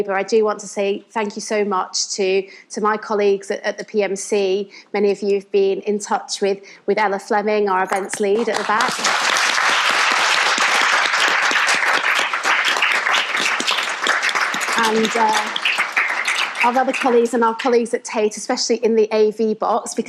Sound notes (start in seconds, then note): 10.5 audience applauds